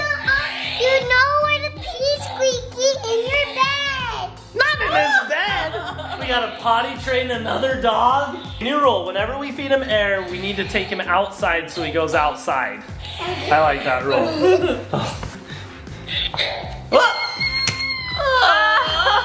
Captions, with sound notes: - Yeah. You know where to pee Squeakee. In your bed. - Not in his bed. We gotta potty train another dog? New rule, whenever we feed him air, we need to take him outside so he goes outside. I like that rule. (laughing) (balloon squeaking) - Oh